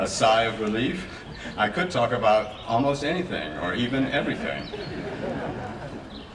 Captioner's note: laughing